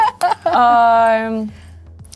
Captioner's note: laughing